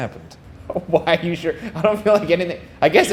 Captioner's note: laughing